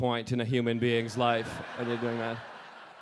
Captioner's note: audience laughing